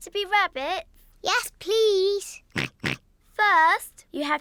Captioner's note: snorts in agreement